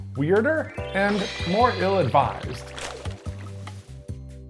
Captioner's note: magical chiming; paper rustling